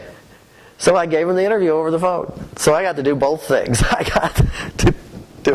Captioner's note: laughter